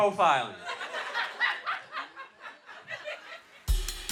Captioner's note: laughter